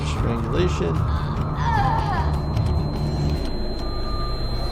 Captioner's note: person moaning